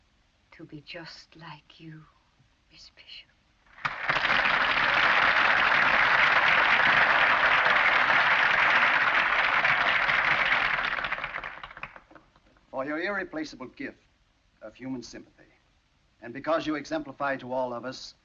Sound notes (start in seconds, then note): 3.7 crowd applauds